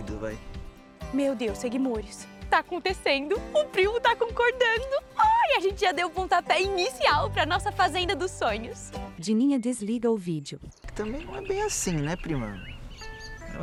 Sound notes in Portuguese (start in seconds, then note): 7.7 Pássaros